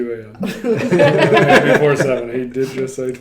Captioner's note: laughing